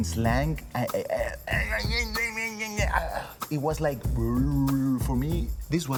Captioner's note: sighs; speaking jibberish